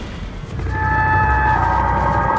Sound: shrill cry

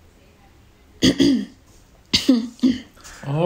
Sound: A small slight cough

